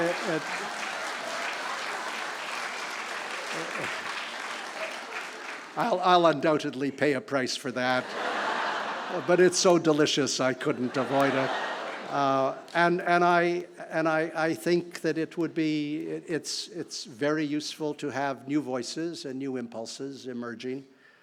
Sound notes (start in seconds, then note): 0.0 applause; 0.7 laughter